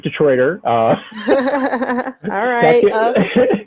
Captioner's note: laughs